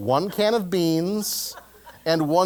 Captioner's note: laugh